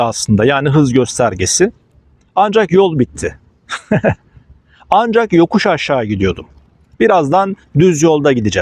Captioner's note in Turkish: kahkaha